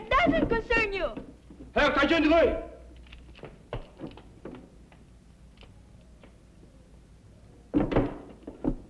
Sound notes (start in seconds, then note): 1.4 speaking japanese